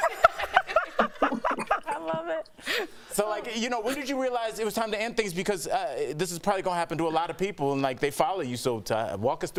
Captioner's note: laughter